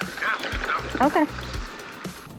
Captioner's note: radio chatter